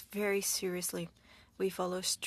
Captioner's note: speaking French